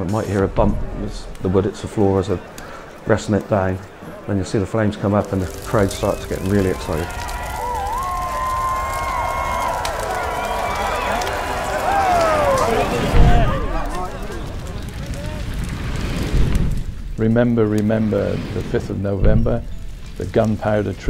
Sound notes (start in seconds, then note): 7.0 flames crackling; 7.8 crowd cheering